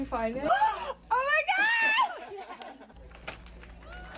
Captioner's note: gasps